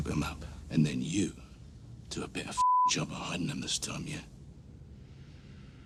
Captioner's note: beeping